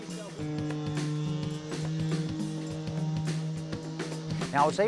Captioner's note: motor whirring